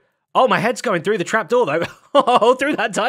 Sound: laughs

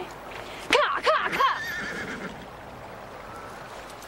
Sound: woman shouting

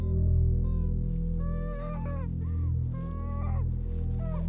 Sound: crying intensifies

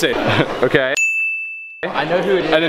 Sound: ding

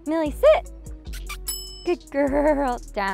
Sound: kissing noises; bell dings

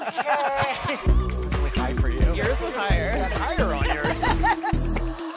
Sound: laughter; overlapping chatter, laughter

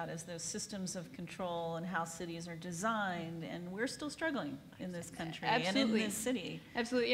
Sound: none

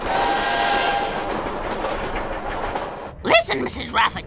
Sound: train whistles and clacks

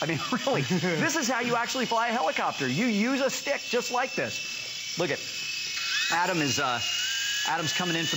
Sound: laughter

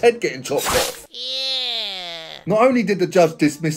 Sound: blade slices

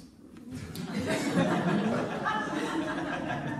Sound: laughter

